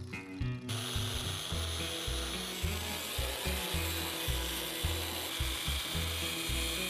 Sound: saw buzzing

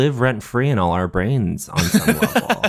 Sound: laughs

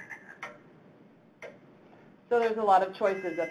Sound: frogs croaking; clock ticking

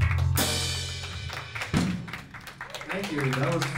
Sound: applause

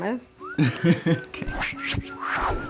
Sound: guy laughs

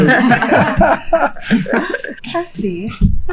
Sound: all laughing

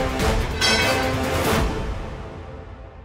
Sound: metal clanking

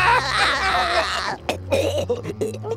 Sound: laughing; choking

